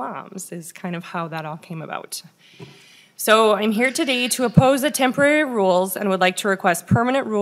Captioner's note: laughing